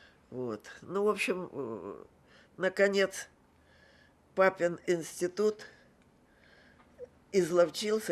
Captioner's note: none